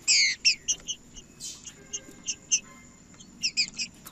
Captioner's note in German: trinca ferro cantando